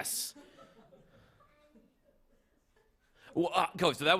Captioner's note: laughter